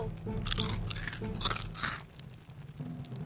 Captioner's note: crunch noises